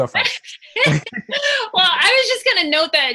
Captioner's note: laughs